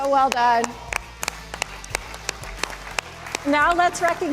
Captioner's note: applause